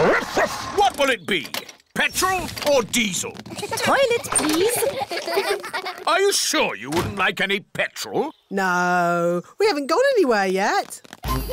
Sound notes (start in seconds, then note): 3.4 kids giggling